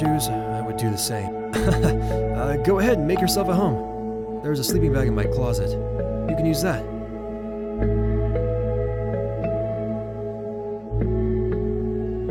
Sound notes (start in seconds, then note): 1.5 chuckles